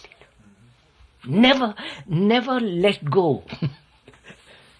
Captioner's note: laughs